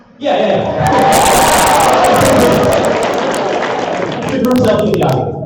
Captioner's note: applause